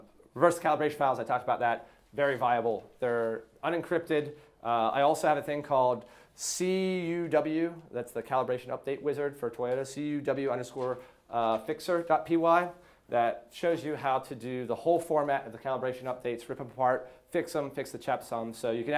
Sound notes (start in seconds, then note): none